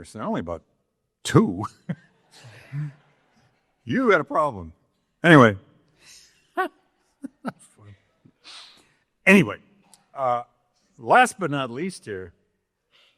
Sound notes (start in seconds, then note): 2.3 audience laughing; 2.4 chuckling; 7.2 laughs